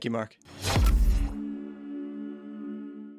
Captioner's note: logo whooshing